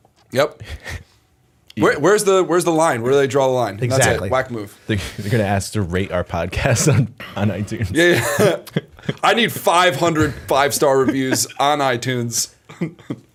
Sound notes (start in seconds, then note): 9.1 chuckle; 12.2 laughter